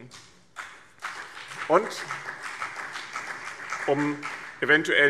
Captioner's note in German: Beifall BÜNDNIS 90/DIE GRÜNEN